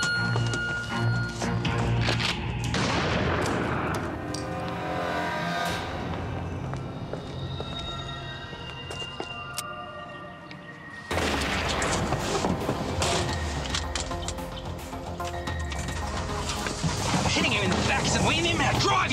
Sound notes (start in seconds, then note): 2.7 gun firing; 5.0 dark music; 11.4 gun fires; 14.8 suspenseful music